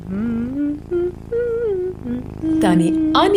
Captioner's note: Aunt Annie hums; cat purrs